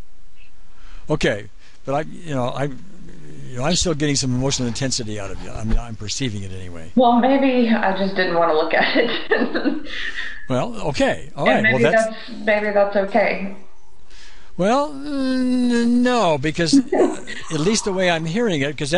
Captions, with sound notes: - I'm still getting some emotional intensity out of you. I'm perceiving it anyway. - Well, maybe I just didn't want to look at it. (laughs) - Well, okay. - Maybe that's okay. - Well, no, because at least the way I'm hearing it,